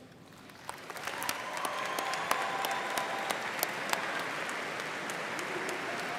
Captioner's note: audience cheering and applauding